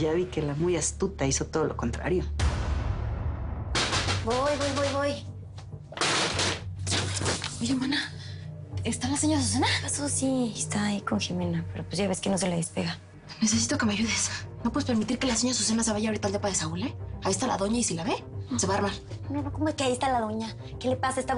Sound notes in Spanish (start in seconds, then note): 3.8 Toques en la puerta; 5.9 Ruido al abrir